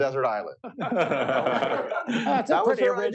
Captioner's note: laughter